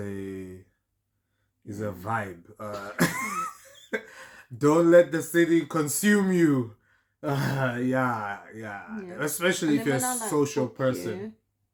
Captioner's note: laughter